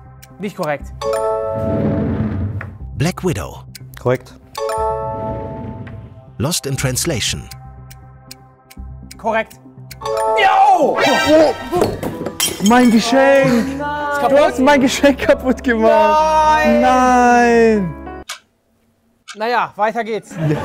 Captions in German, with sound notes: Nicht korrekt. Korrekt. Korrekt. Ja! Woah! (Klirren) Mein Geschenk! Du hast mein Geschenk kaputtgemacht! Nein! Na ja, weiter geht's!